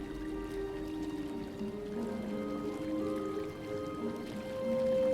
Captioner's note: water running